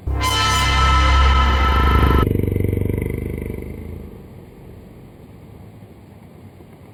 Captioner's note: creepy sound